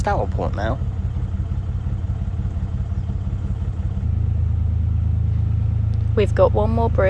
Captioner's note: narrowboat engine sounds